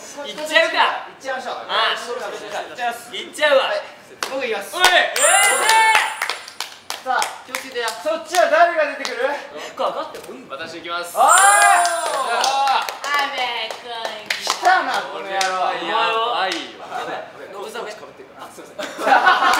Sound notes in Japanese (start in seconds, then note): 11.8 拍手